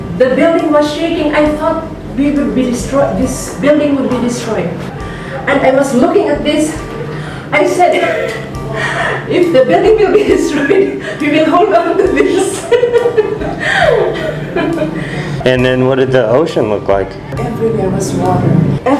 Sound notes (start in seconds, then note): 12.2 laughing